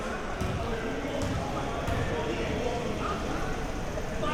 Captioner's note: audience chattering